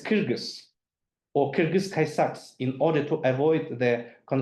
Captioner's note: speaks in foreign language